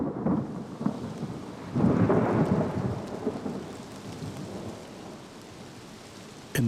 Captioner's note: thunder rumbling